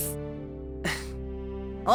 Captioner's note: breath